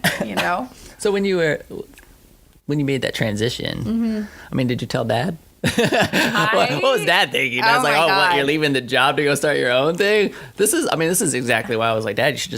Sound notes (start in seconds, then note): 5.6 laughter